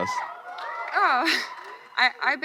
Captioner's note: crowd cheering